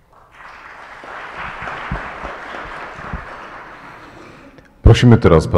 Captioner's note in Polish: oklaski